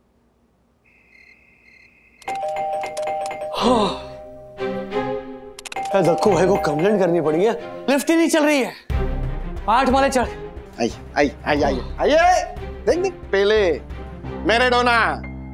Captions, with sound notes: [doorbell rings] Ah. I have to complain to Dakku. Why isn't the lift working? I had to climb 8 floors. Come on. Look at Pele, Maradona.